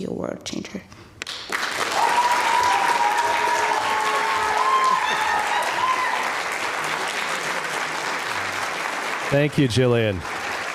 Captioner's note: applause